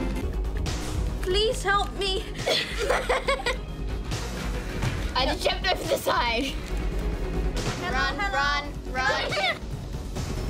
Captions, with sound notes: Please help me! (ALL LAUGH) I jumped over the side! Hello, hello. Run, run. Run. (LAUGHS)